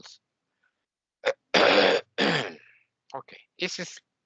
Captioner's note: coughing